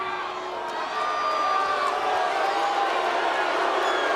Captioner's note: audience jeers